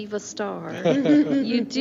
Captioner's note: laughing